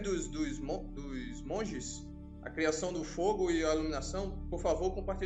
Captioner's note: repeated in Portuguese